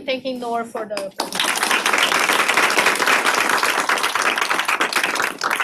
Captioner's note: applause